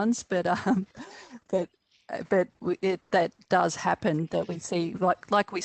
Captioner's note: chuckles